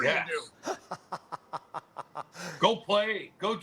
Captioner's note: laughter